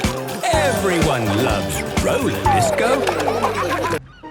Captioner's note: laughter